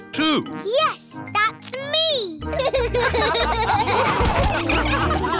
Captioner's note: all laughing